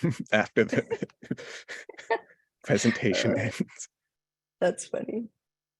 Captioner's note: laughter